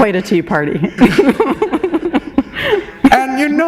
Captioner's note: laughter